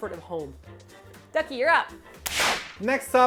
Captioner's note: slap